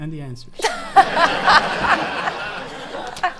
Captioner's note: laughing